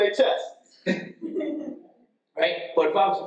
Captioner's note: attendee laughs